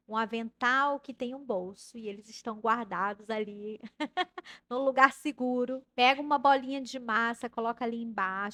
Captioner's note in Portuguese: risadas